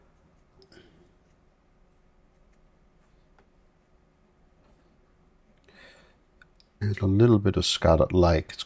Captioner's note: silence